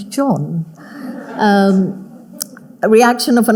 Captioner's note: audience laughing